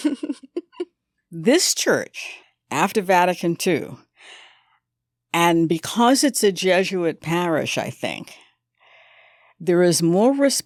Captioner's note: laughter